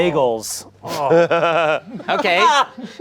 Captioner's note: laughing